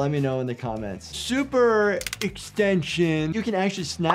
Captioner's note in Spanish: huesos crujiendo